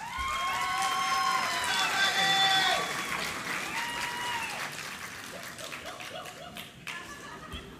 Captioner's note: applause